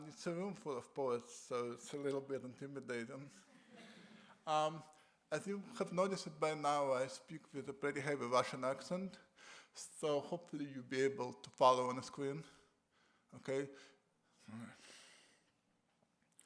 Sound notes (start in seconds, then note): 3.5 laughter